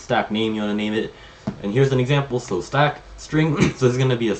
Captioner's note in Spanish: se aclara la garganta